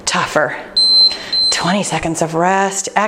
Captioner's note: timer beeping